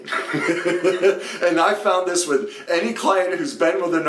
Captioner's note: laughs